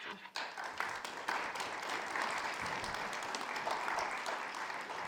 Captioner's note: audience applauds